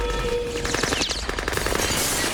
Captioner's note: gunfire and glass shattering